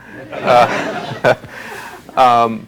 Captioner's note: chuckling